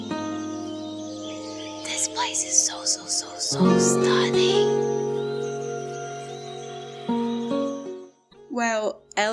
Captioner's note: whispering